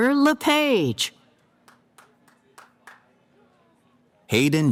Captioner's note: cheering